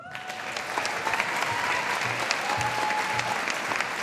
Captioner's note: audience applauding